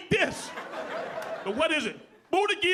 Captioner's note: audience laughing